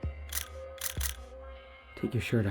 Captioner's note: shutter clicking